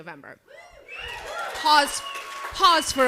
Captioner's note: crowd cheers